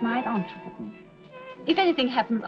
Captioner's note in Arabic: يدندن